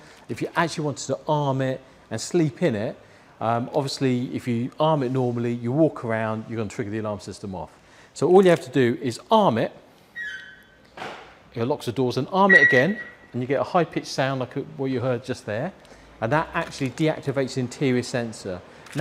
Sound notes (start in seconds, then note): 12.4 beep